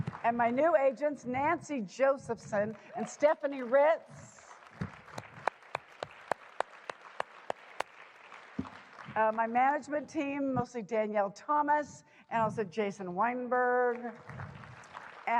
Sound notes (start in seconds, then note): 4.4 applause